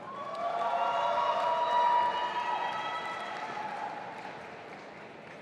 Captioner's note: audience applauding and cheering